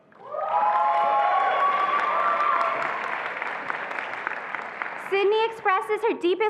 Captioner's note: attendees applauding and cheering